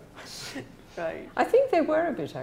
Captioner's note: laughs